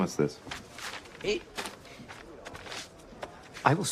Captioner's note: stammers